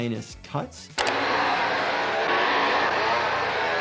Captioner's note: chainsaw buzzing